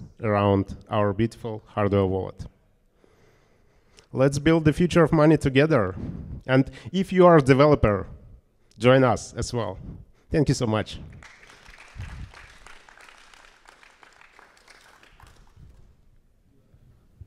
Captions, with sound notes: around our beautiful hardware wallet. Let's build the future of money together. And if you are a developer, join us as well. Thank you so much. [APPLAUSE]